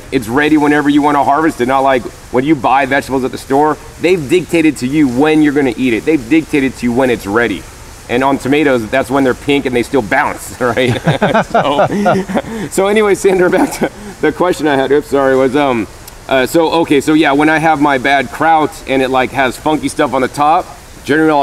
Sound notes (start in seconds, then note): 10.8 laughs